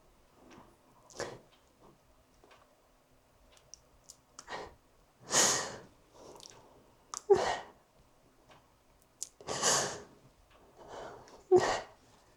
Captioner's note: sobbing